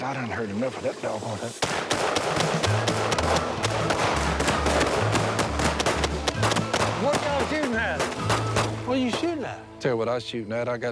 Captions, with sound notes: I've done heard enough of that doggone thing. [gunshots] What y'all shooting at? What you shooting at? I'll tell you what I was shooting at.